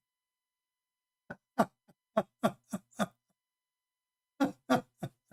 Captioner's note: Ketawa